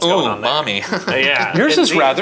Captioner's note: laughs